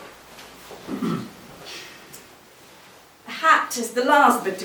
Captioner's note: clears throat